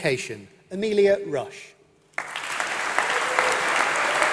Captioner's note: applause